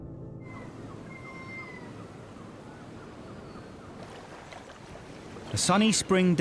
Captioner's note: gulls crying; water splashes